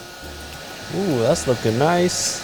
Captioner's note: heat gun blowing